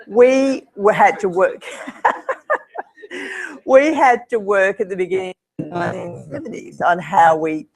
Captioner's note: laugh